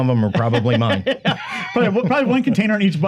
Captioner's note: laughing